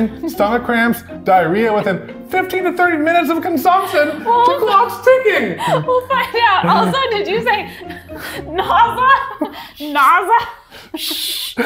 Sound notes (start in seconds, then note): 5.6 laughing